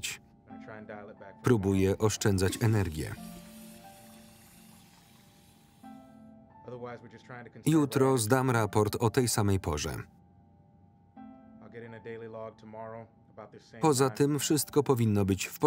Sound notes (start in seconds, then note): 2.1 toilet flushing